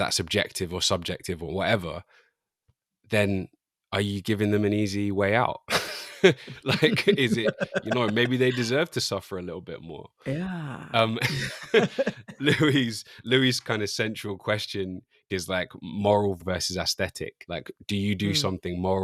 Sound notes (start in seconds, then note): 5.7 laughter